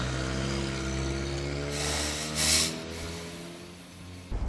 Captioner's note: deep sigh